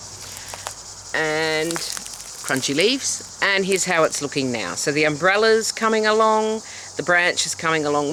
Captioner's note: leaves crunching